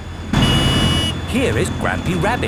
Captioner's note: honking